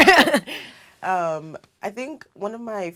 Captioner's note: laugh